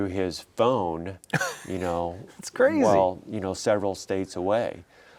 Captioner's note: laughing